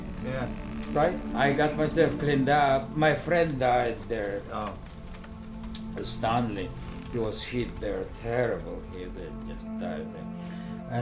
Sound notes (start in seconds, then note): 4.8 crackling fire